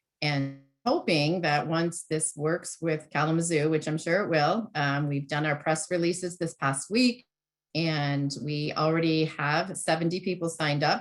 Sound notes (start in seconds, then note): none